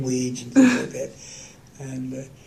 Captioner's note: laughter